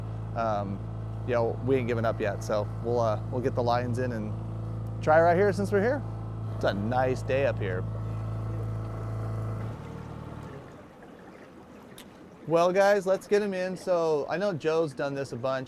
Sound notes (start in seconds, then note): 10.6 boat engine idling